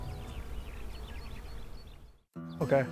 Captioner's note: birds chirping